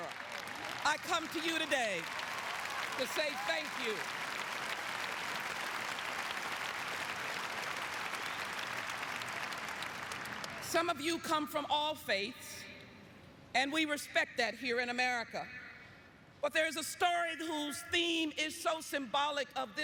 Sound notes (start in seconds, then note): 9.1 apapplplauausese